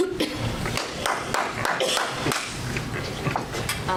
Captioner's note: audience applause